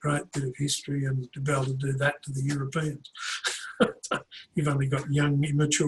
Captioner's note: laughs